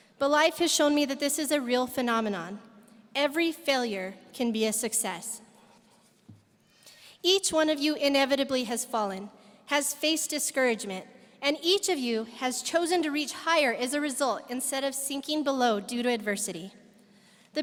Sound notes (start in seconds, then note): none